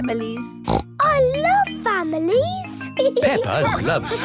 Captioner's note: snorts